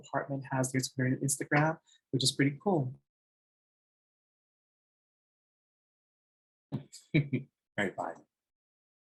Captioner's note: laughs